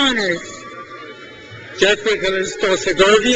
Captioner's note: crowd cheers